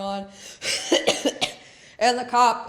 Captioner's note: coughs